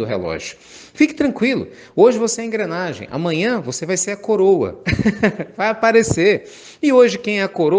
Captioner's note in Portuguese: Risos